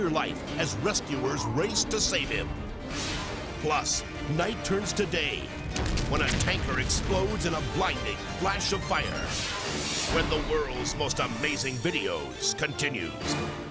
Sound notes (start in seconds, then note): 2.7 graphics whooshing; 8.4 graphics whooshing